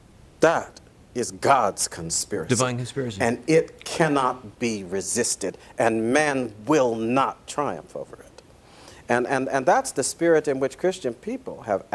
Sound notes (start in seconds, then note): none